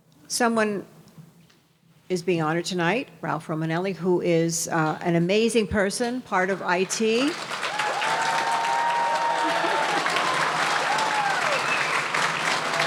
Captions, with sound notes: Someone is being honored tonight, Ralph Romanelli, who is an amazing person, part of IT. (audience cheering and applauding)